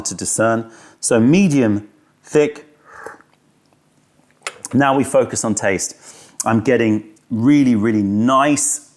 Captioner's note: sips tea